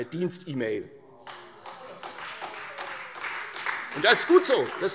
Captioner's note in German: Heiterkeit und Beifall Freie Demokraten und vereinzelt SPD